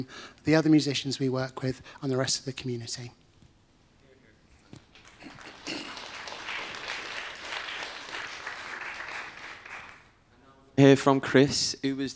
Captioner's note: applause